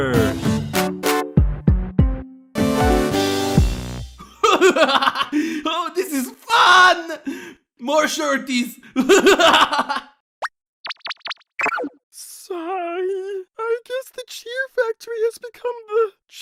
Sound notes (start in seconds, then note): 4.2 yang laughs; 9.0 yang laughs more